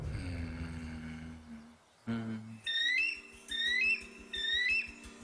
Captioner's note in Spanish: Tararea